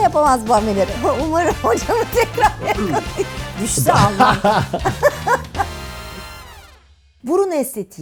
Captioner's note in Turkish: kahkaha